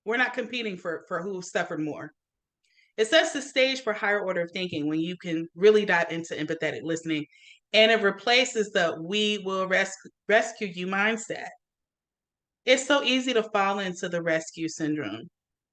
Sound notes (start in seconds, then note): none